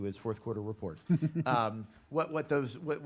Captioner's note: chuckling